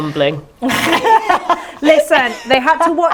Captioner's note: laughing